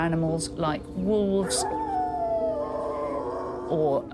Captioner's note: wolf howls